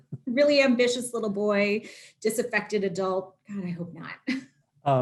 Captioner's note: laughter